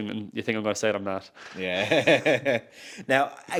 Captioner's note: laughs